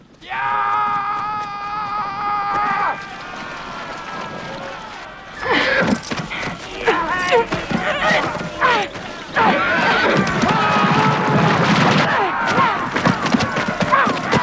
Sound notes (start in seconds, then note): 0.4 man shouting; 3.1 group shouting; 5.7 Hundra grunts; 7.1 Hundra grunting; 7.1 man growling; 10.9 men shouting